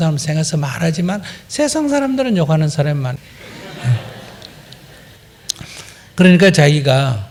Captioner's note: audience Laughter